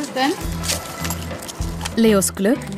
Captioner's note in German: Rascheln, Klimpern